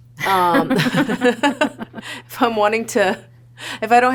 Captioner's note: laughter